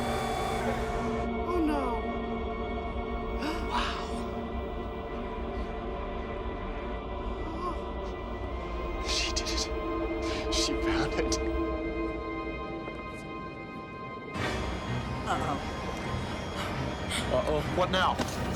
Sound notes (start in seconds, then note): 3.4 gasps; 14.5 dramatic orchestral music